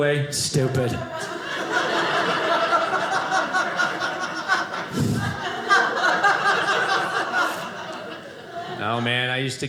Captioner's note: audience laughing